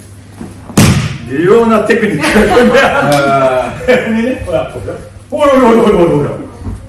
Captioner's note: laughs